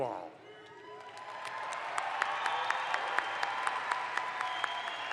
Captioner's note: audience applauds